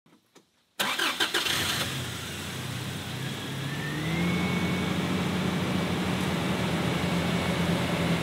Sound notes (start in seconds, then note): 0.8 car engine starting; 4.0 car engine revving